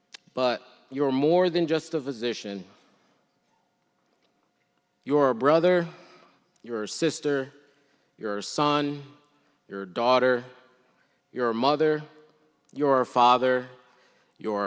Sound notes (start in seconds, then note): none